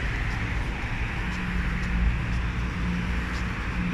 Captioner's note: heavy traffic